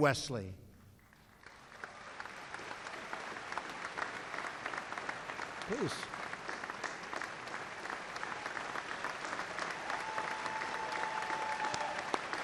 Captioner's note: applause